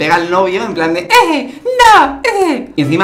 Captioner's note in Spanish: voz de niñita